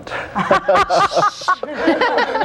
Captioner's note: all laughing